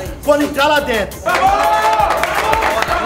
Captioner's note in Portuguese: gritos de incentivo